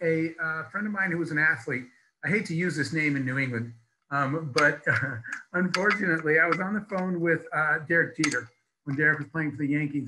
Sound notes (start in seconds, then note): 4.2 laughs